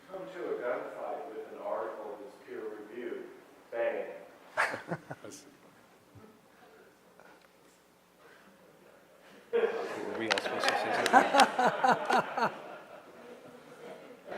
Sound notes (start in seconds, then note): 4.6 laughs; 11.5 audience laughs